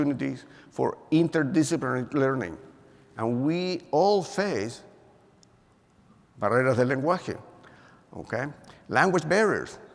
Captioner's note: spanish